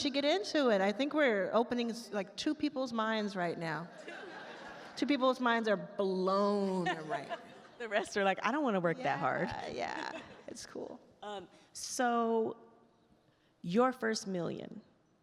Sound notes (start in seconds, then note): 4.0 attendees laugh